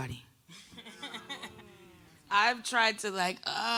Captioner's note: audience laughing